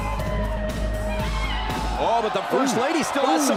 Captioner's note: crowd cheering